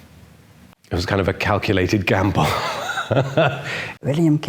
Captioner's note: laughs